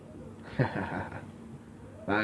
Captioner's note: awkward laugh